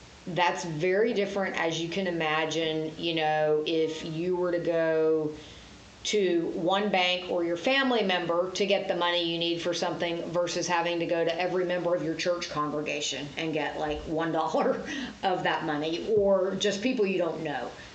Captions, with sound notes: That's very different, as you can imagine, you know, if you were to go to one bank or your family member to get the money you need for something, versus having to go to every member of your church congregation and get like $1 [laughs] of that money. Or just people you don't know.